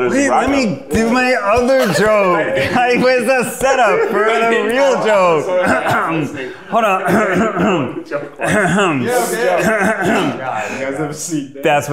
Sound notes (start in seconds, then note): 8.5 coughs